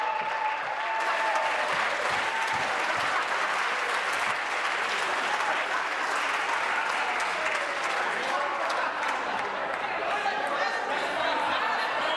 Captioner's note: applause